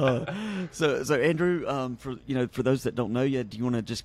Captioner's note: laughing